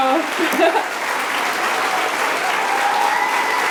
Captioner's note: applause